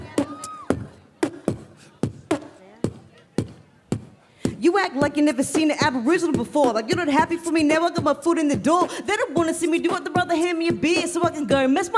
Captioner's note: beatboxing